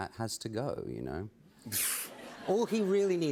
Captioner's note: laughter